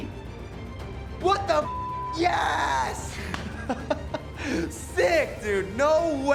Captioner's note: beep; man laughing